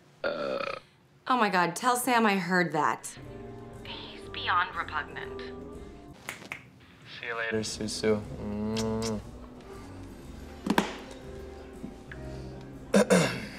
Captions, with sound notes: Oh, right answer. (loud burp) Oh, my God, tell Sam I heard that. He's beyond repugnant. (fingers snapping) See you later, Soo-Soo, mwah.